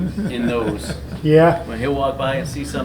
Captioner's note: Richard chuckles